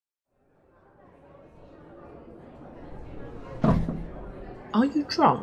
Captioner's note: louder chatter fades in; a thud